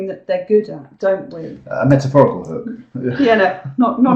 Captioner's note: laugh